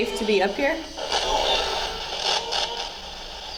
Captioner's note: spirit box scanning; spirit box voice